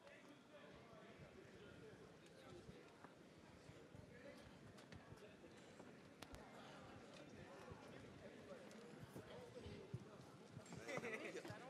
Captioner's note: general chatter